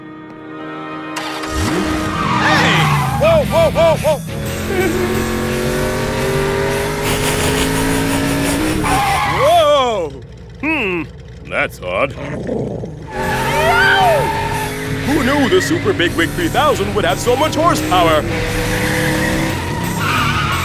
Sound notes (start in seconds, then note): 0.3 sound of car engine revving; 3.6 car engine revs; 6.6 laughs; 11.8 growls; 17.4 engine revs louder; 19.3 sound of tires skidding